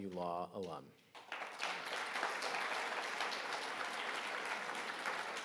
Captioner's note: audience applauding